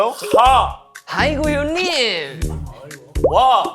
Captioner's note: country accent